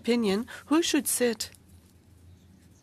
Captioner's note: speaking in French